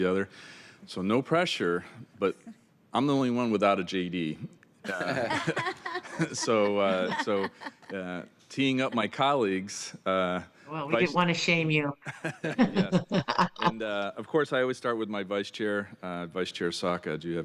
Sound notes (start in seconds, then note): 12.0 laughter